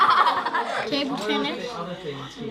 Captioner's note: laughter